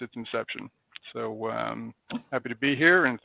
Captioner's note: laughs